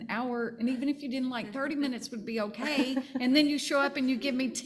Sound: panel chuckling

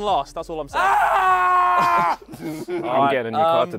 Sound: screams

